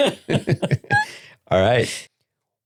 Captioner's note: laughing